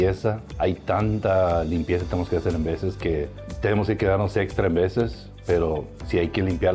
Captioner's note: continues speaking in foreign language